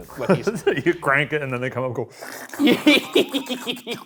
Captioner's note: chuckles; slurps; laughing